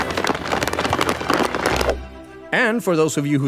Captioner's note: applause